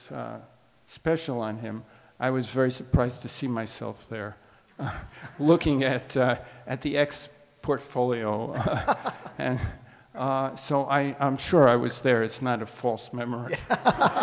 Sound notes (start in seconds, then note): 8.5 laughs